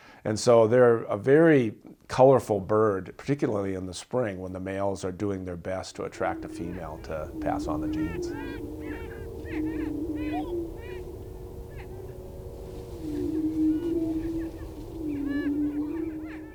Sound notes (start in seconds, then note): 9.0 prairie chickens screeching